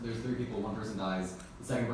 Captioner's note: I don't know noise